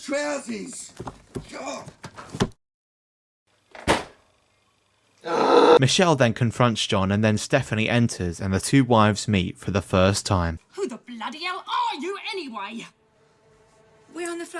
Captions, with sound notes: (slam) (groan) Michelle then confronts John and then Stephanie enters, and the two wives meet for the first time.